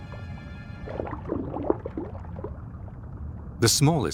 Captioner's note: water sloshes